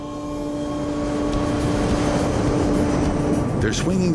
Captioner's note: plane roaring